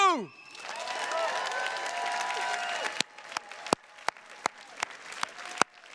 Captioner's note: attendees cheers and claps